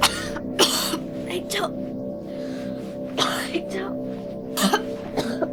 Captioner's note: Tiffany coughing